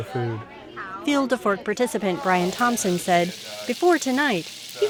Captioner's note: voiceover